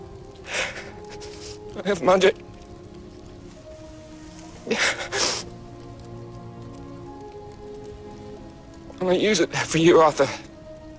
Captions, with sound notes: I have magic *sobbing* "I'm gonna use it all for you, Arthur."